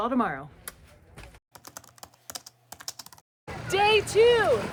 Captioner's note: keys clacking